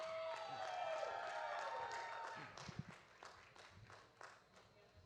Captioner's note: audience applauding